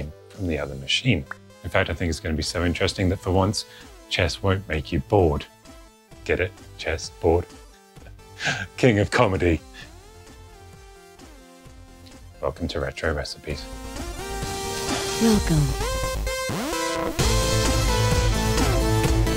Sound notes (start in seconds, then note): 8.1 laughs